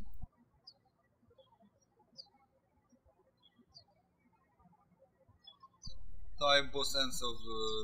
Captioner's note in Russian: птички щебечут